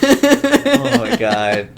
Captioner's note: laughter